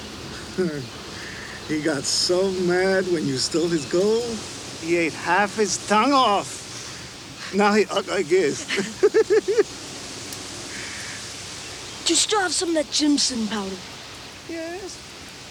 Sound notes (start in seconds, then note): 0.3 Crecencio chuckles; 7.3 giggles